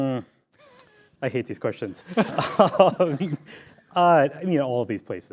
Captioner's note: laughs